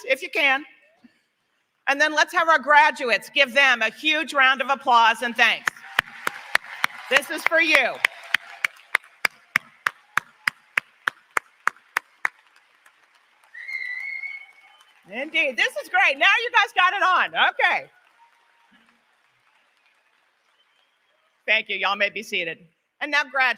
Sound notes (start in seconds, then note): 6.3 applause; 15.1 applause; 15.1 cheering